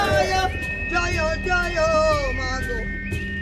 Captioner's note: chanting continues